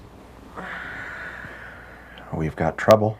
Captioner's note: Laura exhales